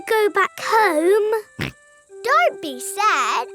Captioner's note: snorts